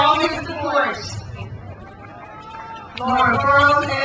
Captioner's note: crowd cheers